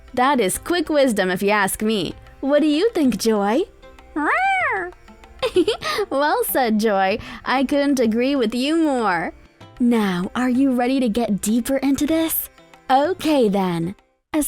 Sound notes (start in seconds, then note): 4.1 meow; 5.4 chuckles